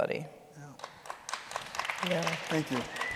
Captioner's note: audience applauding